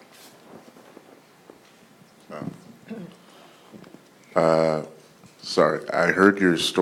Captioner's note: cough